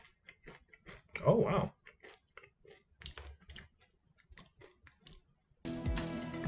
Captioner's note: continued chewing